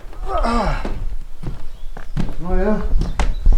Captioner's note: groans